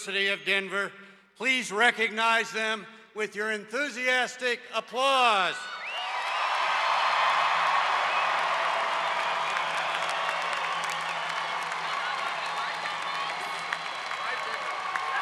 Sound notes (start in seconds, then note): 7.7 audience cheers